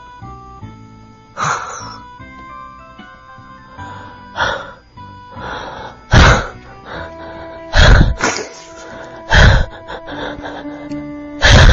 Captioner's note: sobbing